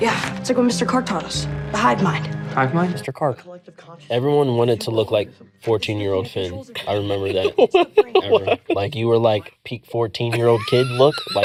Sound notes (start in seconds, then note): 6.8 laughing